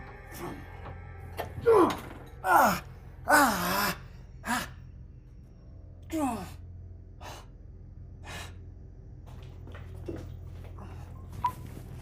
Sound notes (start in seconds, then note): 1.8 Kenny screams; 7.6 shadowy music